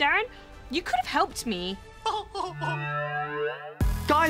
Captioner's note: giggles